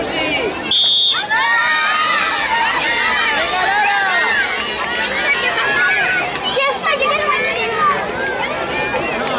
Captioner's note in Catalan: xiulet; Crits de la gent